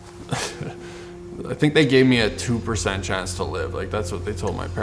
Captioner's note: chuckles